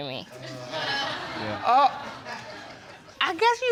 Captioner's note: spectators laugh